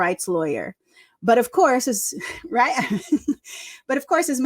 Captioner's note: laughs